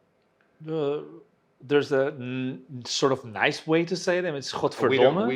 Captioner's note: speaks in Dutch